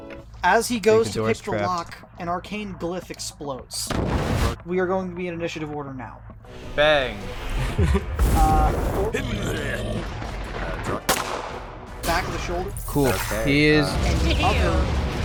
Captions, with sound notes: As he goes towards lockpick an Arcane, glyph explodes. We are going to be in initiative order now. [COMBAT NOISES] [COMBAT NOISES] [COMBAT NOISES] [COMBAT NOISES]